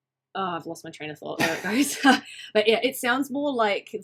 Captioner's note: both laughing